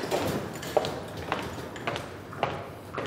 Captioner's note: footsteps